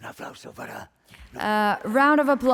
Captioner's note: speaking spanish